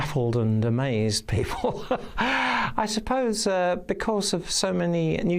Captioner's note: laughs